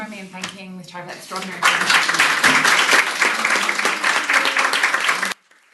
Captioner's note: applause